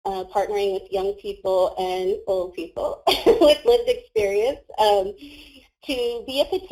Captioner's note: laughs